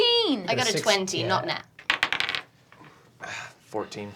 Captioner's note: dice bouncing